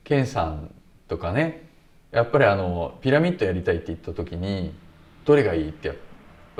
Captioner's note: none